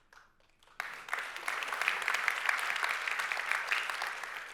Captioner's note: audience applauding